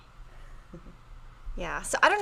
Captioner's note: chuckles softly